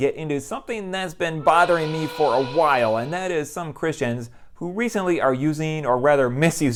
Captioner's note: whistle